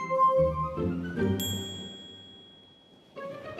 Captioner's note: bell dings